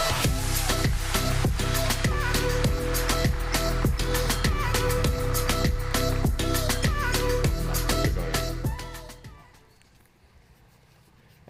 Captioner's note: applause